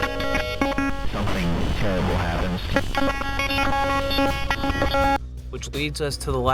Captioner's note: glitching noise